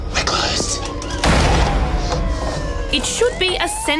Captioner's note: siren blares